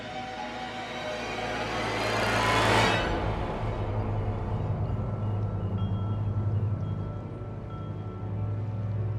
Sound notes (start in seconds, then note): 4.8 les cloches sonnent